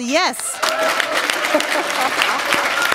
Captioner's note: applause